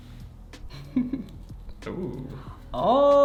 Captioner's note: chuckles